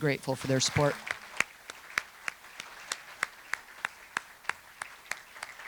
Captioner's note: everyone applauding